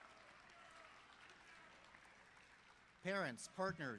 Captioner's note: cheers and applause